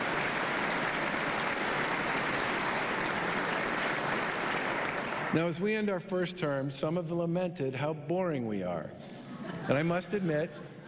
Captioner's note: applause